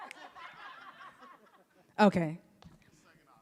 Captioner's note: panelists laughing